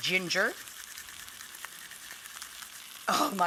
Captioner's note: sizzling